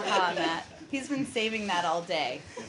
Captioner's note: laughter